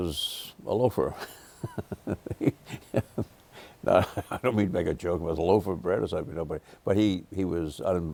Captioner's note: laughter